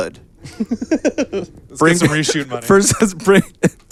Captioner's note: laughing